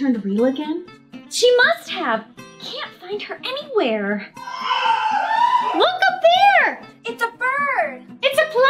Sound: screams

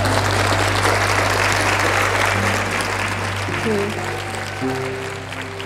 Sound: applause

